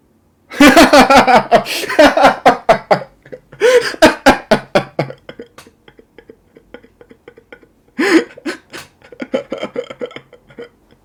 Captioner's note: laughter